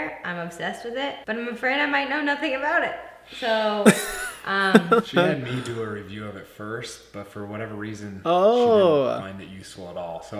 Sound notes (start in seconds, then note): 3.8 laughs